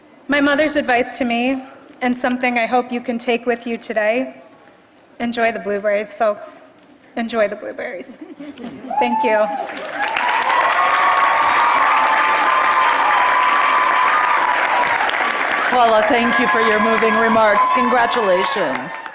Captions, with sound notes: My mother's advice to me, and something I hope you can take with you today, enjoy the blueberries folks, enjoy the blueberries, thank you. >> [APPLAUSE] >> Paula thank you for your moving remarks, congratulations.